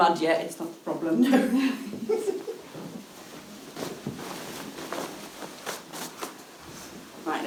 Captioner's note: giggling